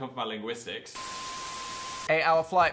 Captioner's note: beep